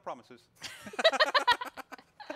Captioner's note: laughing